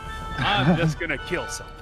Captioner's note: laughing